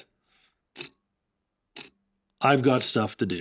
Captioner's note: clock ticking